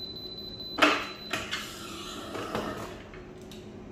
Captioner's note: button beeping; pressing machine sound